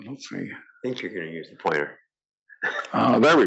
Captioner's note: laugh